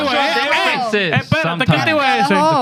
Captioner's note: speaking In Foreign Language